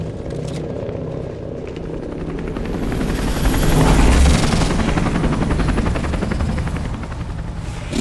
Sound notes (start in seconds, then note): 2.3 helicopter blades whirring